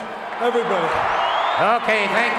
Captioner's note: audience cheering